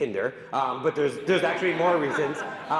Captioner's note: audience laughing